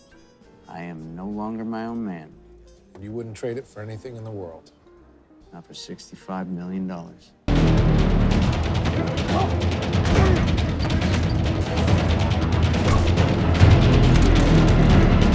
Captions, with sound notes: I am no longer my own man. - And you wouldn't trade it for anything in the world. - Not for $65 million. (suspenseful music) (fighters grunting) (suspenseful music) (glass breaking) (suspenseful music)